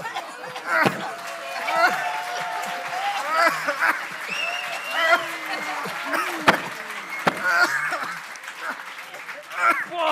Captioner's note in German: Husten